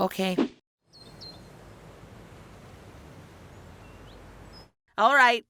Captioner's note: birds chirping